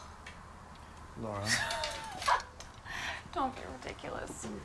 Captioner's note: Laura laughs; Laura sighs